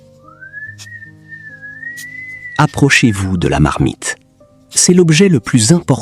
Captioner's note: whistling